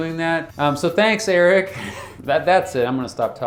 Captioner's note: laughs